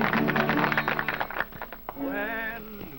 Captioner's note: applause